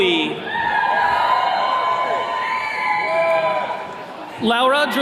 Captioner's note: attendees cheering